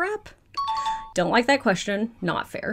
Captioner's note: question dings